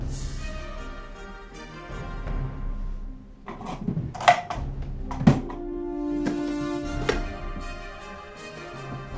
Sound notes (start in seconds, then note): 3.4 drawer opens